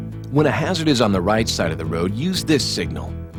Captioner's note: voiceover